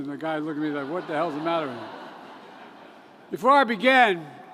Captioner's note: laughter